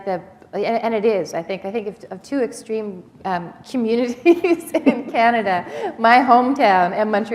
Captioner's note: chuckle